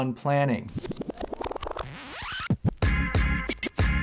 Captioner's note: digital effects; upbeat music